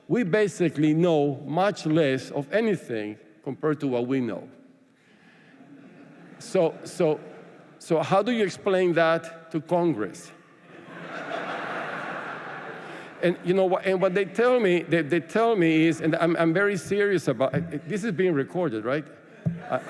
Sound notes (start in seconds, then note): 10.6 laughter; 19.4 laughter